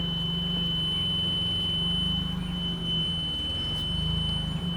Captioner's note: forklift beeping